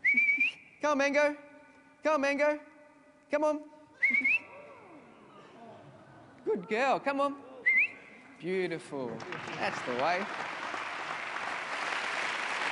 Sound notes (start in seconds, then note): 0.0 whistles again; 4.0 whistles again; 7.6 whistles again; 9.0 applause from the audience